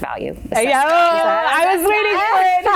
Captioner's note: cheering; laughing